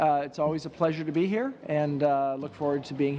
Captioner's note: speaking French